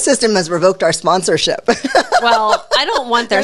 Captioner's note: laughs